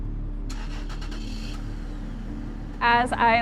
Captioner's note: car rumbling